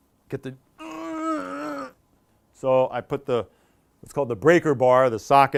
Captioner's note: grunting